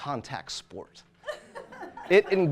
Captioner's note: audience laughter